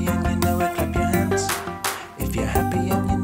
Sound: clapping

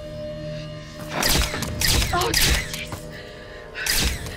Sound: cameras clicking

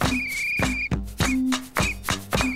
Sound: tweet tweet tweeet; shh shh-shh-shh

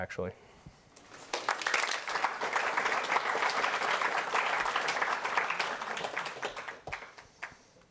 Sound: applause

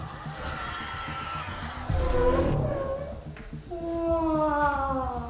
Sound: dinosaur noises in the background

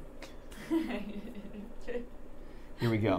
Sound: laughing

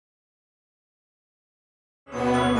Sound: silence

